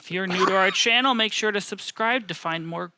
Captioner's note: coughs